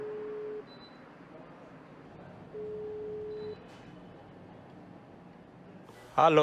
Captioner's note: phone ringing